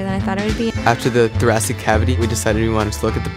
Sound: voiceover

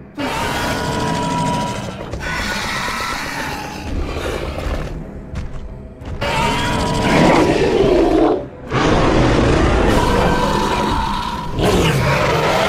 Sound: screeching and roaring sounds

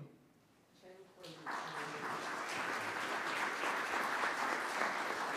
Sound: audience clapping

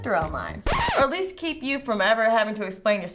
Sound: record scratches

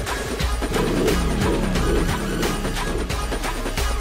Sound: engine revving

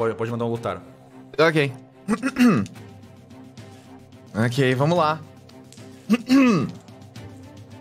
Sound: clears throat

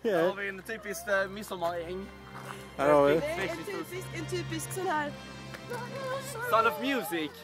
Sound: humming

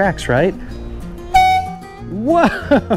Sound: horn toots

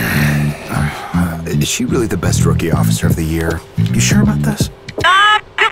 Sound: sigh

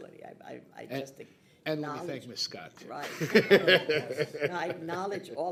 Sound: laughing

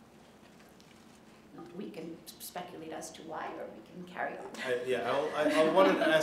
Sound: laughter

